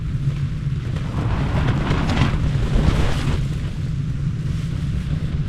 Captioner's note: sound of strong wind